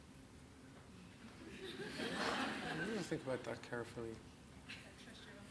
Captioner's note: audience laughs